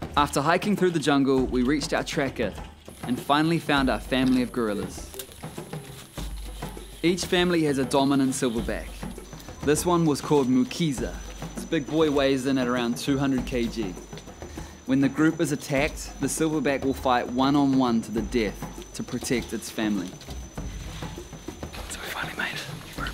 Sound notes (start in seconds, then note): 4.1 branches snap; 20.6 leaves rustle; 22.9 whispers